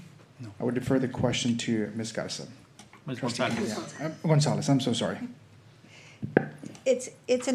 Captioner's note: clears throat